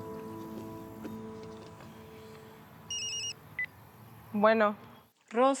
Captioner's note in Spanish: Suena celular